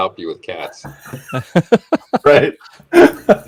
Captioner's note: laughs